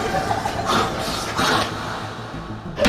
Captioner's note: devouring noises